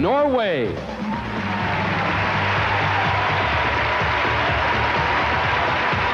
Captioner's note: crowd cheering and applauding; upbeat music